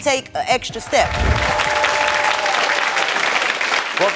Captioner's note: crowd cheering and applauding